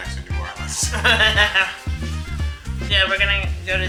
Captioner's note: laughs